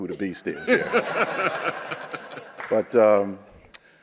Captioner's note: audience laughs